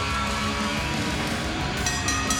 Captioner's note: bell ringing